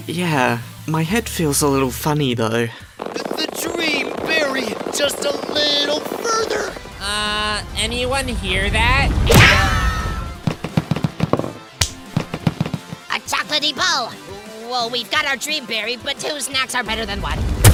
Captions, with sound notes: Yeah. My head feels a little funny, though. The Dream Berry! Just a little further! Uhh, anyone hear that? [Are You Okay screams] A chocolatey ball! Well, we've got our Dream Berry, but two snacks are better than one!